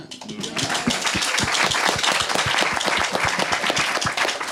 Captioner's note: audience clapping